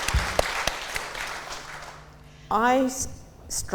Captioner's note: applause